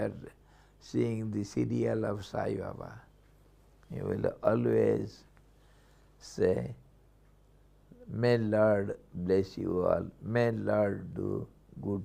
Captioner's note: sanskrit